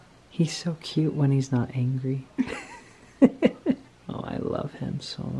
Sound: laughs

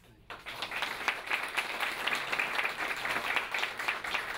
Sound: audience applauding

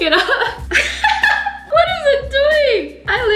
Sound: laughter

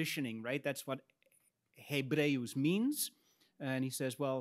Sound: speaks in Latin

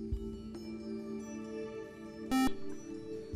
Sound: buzzer

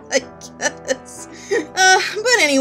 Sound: laughing

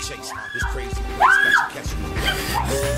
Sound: Renee screams

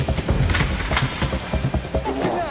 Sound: intense Music; gun Clicks

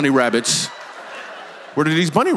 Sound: congregation laughs

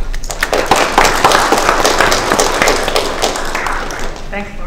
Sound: applause

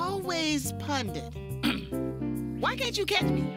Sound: clears throat

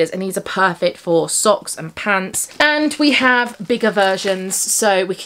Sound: none

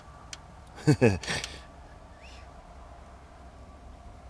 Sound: laughs

